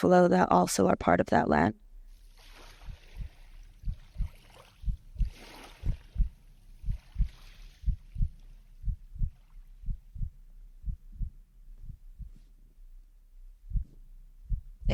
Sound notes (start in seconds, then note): 2.8 heart beating; 5.2 water sloshing